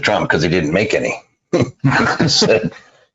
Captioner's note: laughs